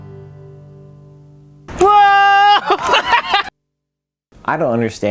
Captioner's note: screams